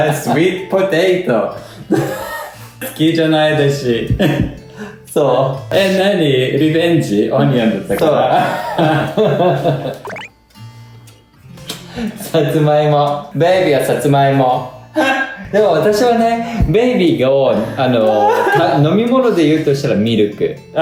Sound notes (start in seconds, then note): 7.6 laughs